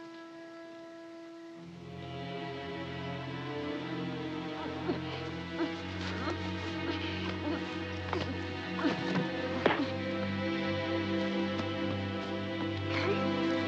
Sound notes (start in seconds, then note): 2.2 tense music; 4.6 grunting